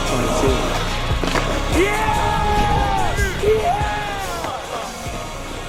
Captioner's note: all cheering